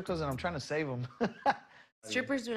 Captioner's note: laughs